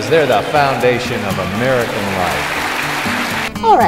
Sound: applause

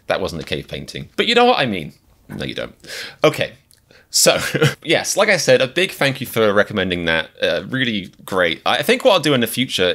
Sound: laughs

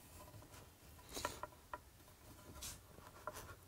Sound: wood creaking

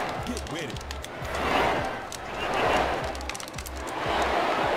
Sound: controller keys clicking

